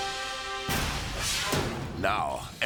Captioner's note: dramatic music; graphics whoosh